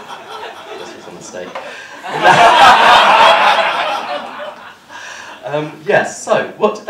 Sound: laughter

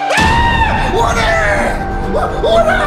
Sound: screams

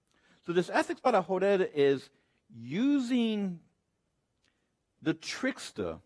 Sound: speaks Spanish

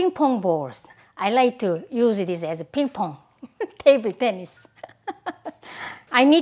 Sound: laughs

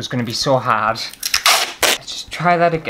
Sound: tape Peeling

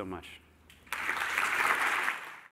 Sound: applause

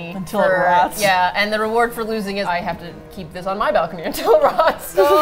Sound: all laugh

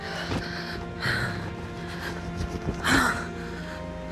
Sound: Alex gasping

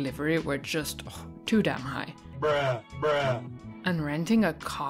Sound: bruh sound effect x 2

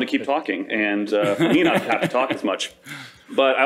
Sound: laughter

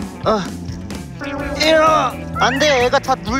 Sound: grunting

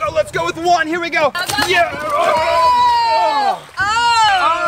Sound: yelling

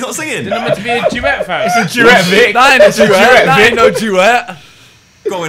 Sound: students murmurs

